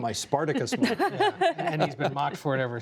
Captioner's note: laughter